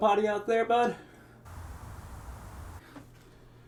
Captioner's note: city noise